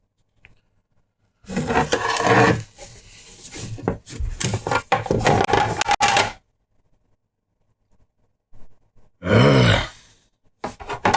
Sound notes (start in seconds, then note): 9.2 growls in frustration